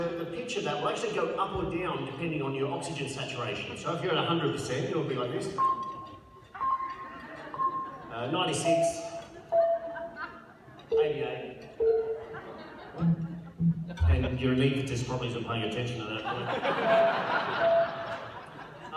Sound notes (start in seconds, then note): 7.7 high pitched beep; 11.4 lower beeps; 16.2 laughter